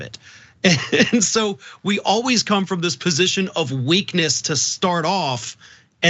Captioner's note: laugh